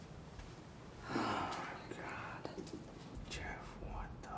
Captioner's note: gasps